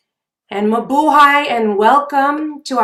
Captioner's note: speaking foreign language